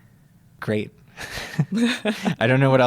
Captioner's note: laughter